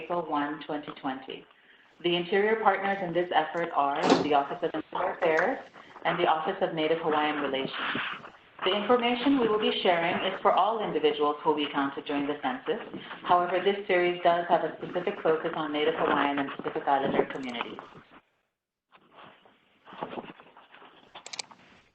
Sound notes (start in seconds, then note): 8.9 Arabic; 13.7 Vietnamese